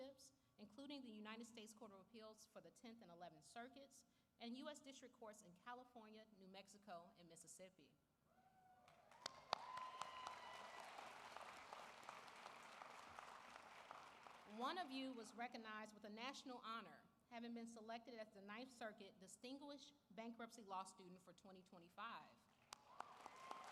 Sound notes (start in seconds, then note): 7.3 applause